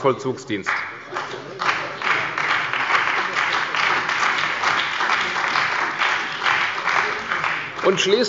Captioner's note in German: Beifall bei der CDU und dem BÜNDNIS 90/DIE GRÜNEN